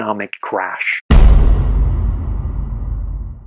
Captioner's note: crash